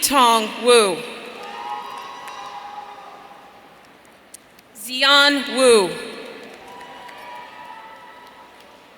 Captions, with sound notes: Yitong Wu. (audience cheering) Ziyan Wu.